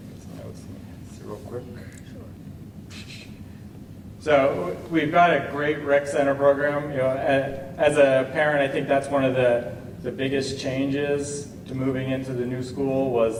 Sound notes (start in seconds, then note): none